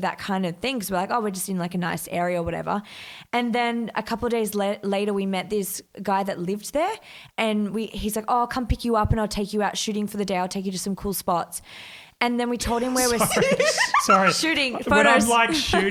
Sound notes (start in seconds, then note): 12.7 laughs